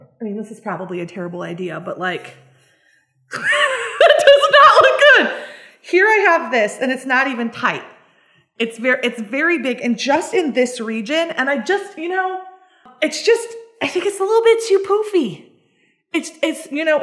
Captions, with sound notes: I mean, this is probably a terrible idea but like (laughs) this does not look good. Here I have this and it's not even tight. It's very, it's very big. And just in this region and I just, you know, it's just, I think it's a little bit too poofy,